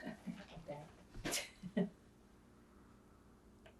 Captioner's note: laughing; pauses 11 seconds